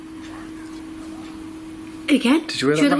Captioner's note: voice whispers